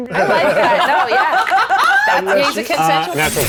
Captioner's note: group laughs